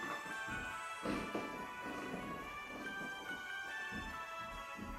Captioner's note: saw handle grinding